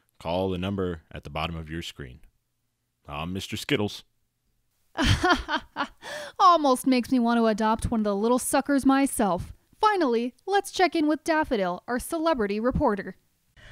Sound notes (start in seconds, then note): 5.0 chuckles